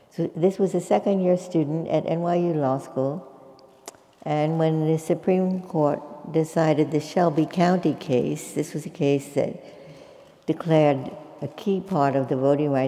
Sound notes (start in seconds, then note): none